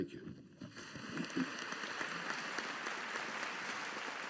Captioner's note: audience applauding